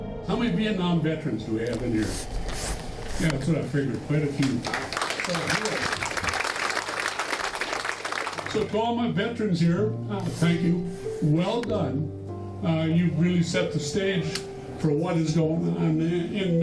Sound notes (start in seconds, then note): 0.0 soft music; 4.2 crowd applauds